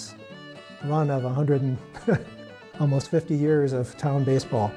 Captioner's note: chuckles